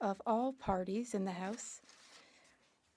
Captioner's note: speaking French